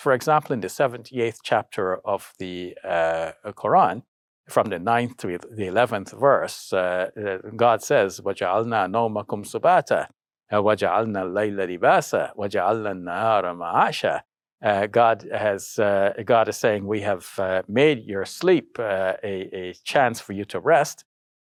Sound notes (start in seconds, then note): 8.7 speaking in foreign language